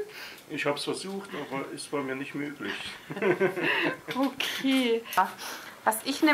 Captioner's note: laughs